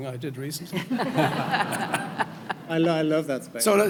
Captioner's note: audience laughing